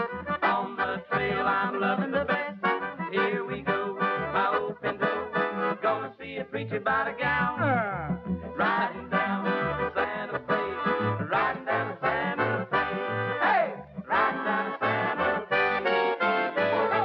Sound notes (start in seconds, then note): 7.8 donkey Noise